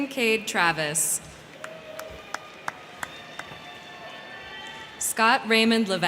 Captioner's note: crowd cheering; crowd clapping